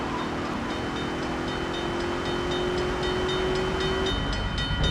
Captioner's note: plane engine roaring; bell ringing